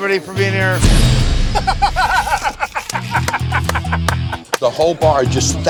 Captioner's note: laughing